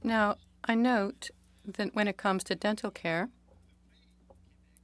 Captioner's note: speaking French